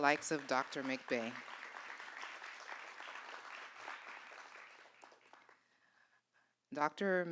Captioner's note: applause